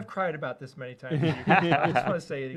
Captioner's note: laughter